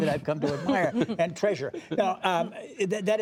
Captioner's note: laughter